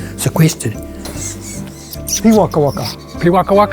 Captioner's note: birds chirping